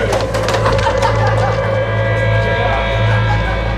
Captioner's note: laughing